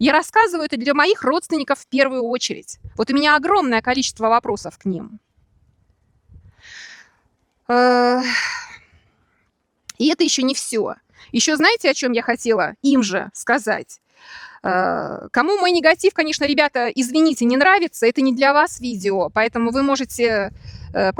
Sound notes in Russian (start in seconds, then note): 8.1 вздыхает